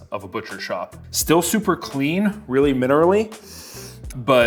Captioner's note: sniffs